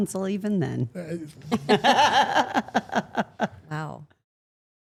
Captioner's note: Steph laughs